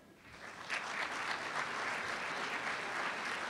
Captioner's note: applause